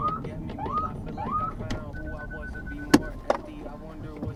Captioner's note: police siren wails